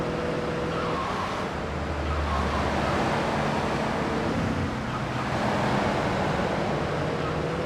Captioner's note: sirens wailing